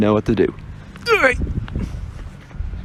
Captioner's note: old man sounds